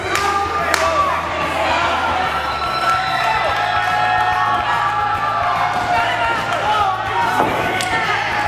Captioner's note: claps; crowd cheering; thud